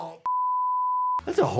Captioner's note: screen beeps